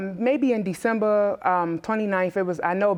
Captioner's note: none